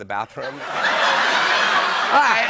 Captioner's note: laughter